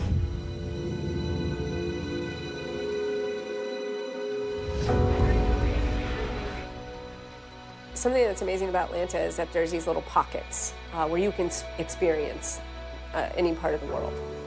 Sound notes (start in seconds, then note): 0.2 ambient music; 4.4 air whooshes